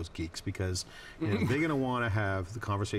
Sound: laughs

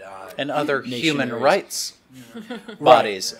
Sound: chuckles

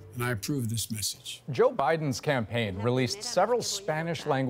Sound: speaking spanish

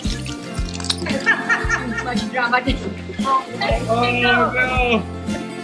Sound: laughs

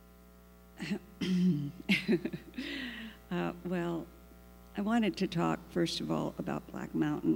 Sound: laughs

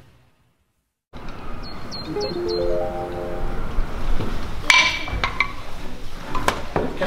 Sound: birds chirping

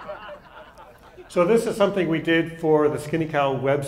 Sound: laughter

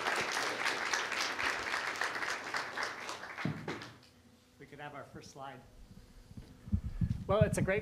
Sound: applause

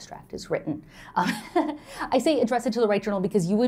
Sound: laughter

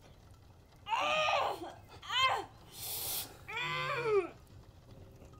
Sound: Lilith loudly groans

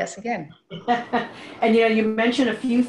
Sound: laughs

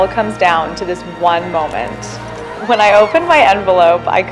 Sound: opening envelope, excitement

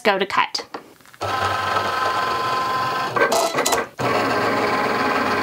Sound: machine whirring

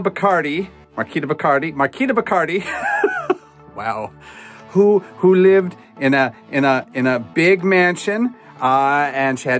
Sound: laughs

